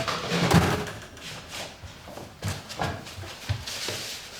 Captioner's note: door slamming shut